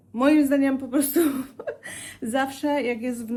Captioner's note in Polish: wciągnięcie powietrza